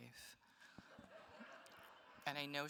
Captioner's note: attendees laughs